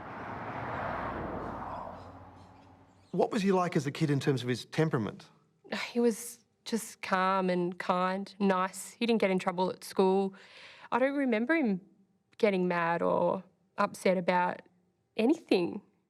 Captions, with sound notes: (car engine revving) (birds chirping) What was he like as a kid, in terms of his temperament? - He was just calm and kind nice. He didn't get in trouble at school. I don't remember him getting mad or upset about anything.